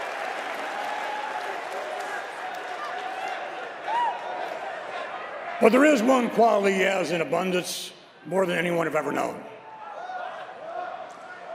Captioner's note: cheers and applause